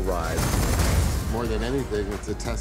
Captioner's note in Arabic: انفجار سيارة